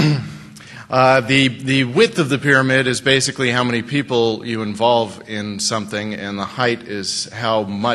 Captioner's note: laughter